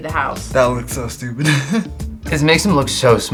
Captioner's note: laughs